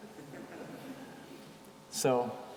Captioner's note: audience chuckling